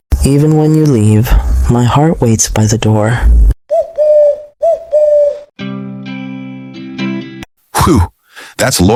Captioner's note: dove coo